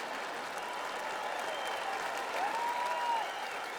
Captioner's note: clapping and cheering